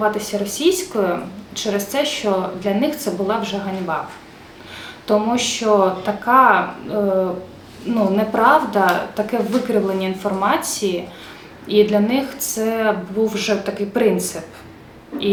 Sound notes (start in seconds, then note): 6.7 Russian